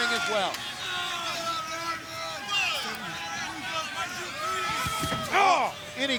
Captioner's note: crowd cheering; body thudding